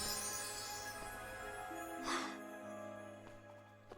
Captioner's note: sighs